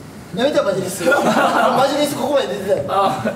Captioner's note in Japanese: 笑い